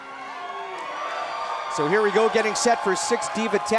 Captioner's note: crowd cheering